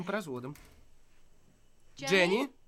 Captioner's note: door opens